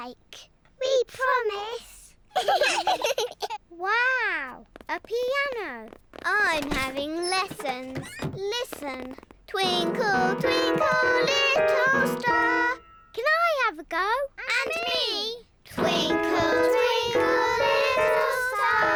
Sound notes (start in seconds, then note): 2.3 both giggle; 9.6 clunks discordantly